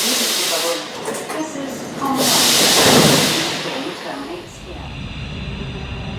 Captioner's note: opening doors